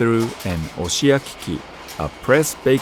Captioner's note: speaking in foreign language